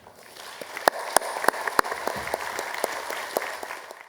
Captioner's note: applause